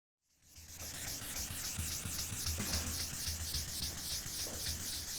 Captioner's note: pencil scribbling